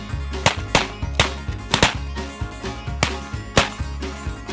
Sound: gunshots echoing

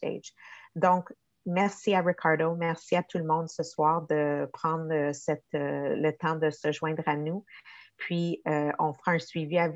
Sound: speaking in French

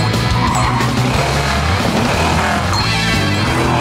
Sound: monster truck jumping

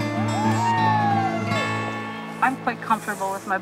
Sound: cheering

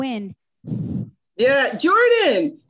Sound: imitates wind whooshing

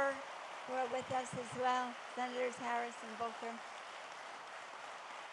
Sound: applause

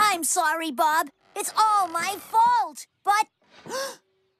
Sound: gasp!

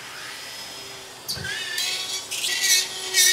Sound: saw buzzing

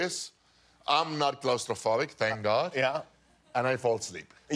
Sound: laughter

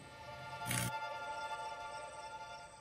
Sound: SFX: electrical short

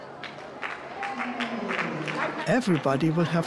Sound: scattered claps

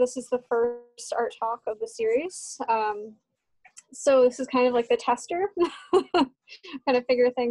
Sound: laughter

